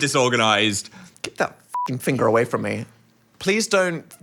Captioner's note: beep